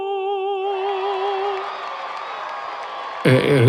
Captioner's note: crowd cheers